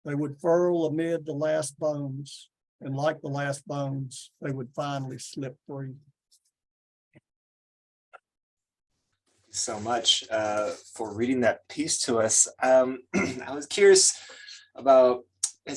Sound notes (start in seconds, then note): 13.1 clears throat; 15.2 lip smack